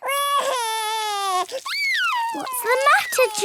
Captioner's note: crying